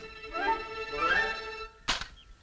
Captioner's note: gun clicks